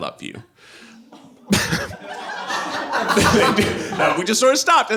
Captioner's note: audience laughing